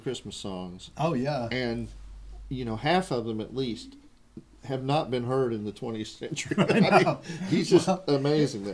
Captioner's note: laughter